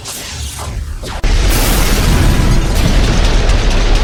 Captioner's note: explosions booming; gun blasting